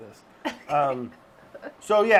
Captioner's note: laughing